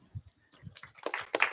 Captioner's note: applause